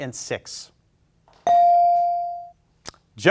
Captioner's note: bell ringing